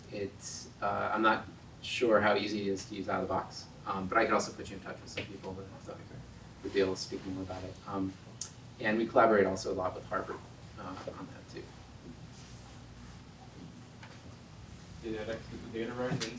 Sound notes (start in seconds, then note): none